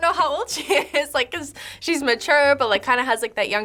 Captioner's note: laughs